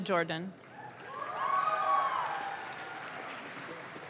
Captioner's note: audience claps